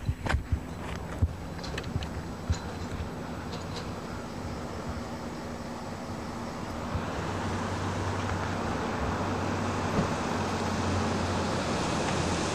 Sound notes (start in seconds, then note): 9.2 car noises